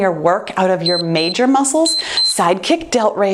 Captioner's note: timer beeps